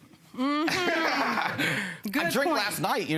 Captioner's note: laughs